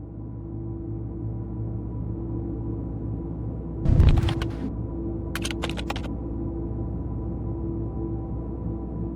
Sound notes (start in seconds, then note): 0.1 somber music; 5.3 computer keys clicking